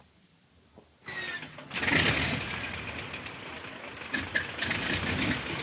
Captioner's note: plane engine rumbling